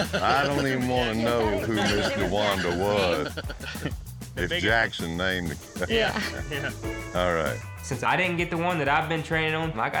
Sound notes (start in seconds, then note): 5.4 everyone laughing